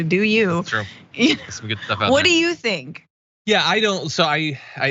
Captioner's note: laugh